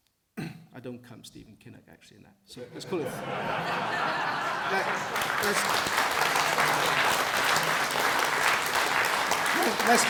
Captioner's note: laughter and clapping